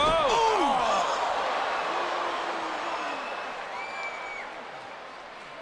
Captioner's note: crowd murmuring